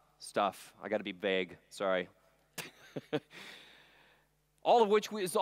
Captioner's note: chuckles